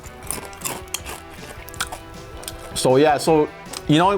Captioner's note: chews